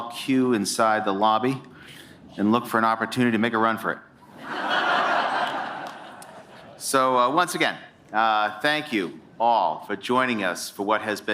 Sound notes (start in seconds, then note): 4.3 laughter